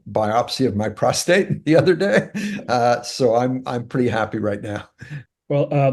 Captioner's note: laugh